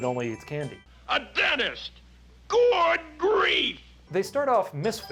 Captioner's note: man yells